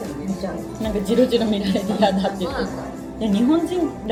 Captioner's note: laughs